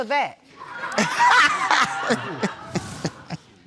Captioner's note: all laughing